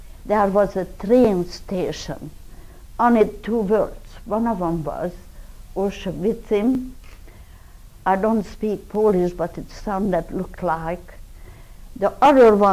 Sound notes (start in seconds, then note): 5.9 non-english speech